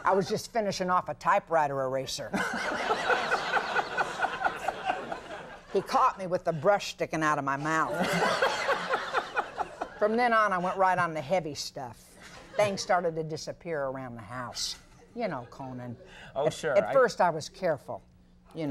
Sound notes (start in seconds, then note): 2.4 audience laughing; 7.8 audience laughing